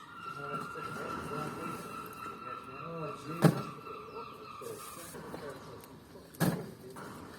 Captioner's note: seagulls mewing and distant chatter